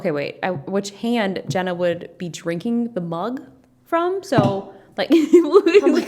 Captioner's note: laughs